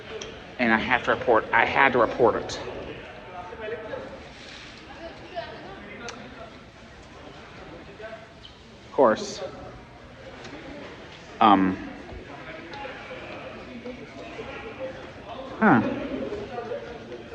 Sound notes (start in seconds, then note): 2.9 students chattering